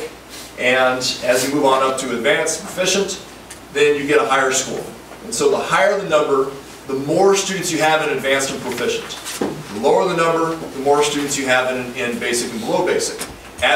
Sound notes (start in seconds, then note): none